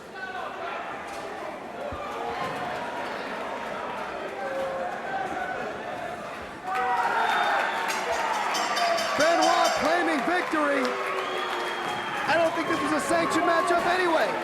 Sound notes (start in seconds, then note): 0.1 crowd chatter; 7.9 bell ringing